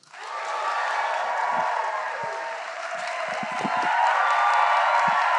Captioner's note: audience cheering and applauding